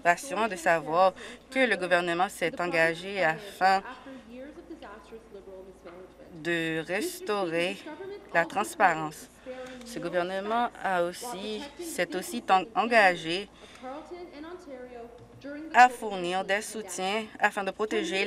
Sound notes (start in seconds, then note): none